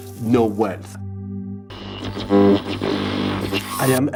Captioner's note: electronic whirring